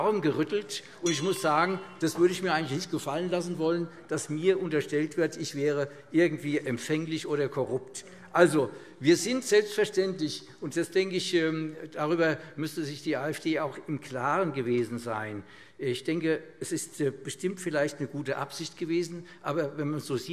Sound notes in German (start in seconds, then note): none